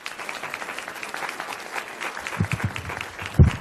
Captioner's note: clap